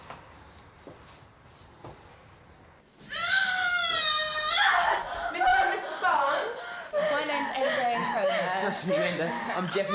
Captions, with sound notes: (screaming and crying) - Mr. and Mrs. Barns. My name's N'Day, hello. - Nice to meet you, N'Day.